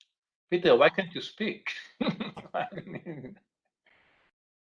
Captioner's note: laughing